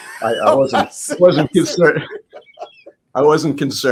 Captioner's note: laughs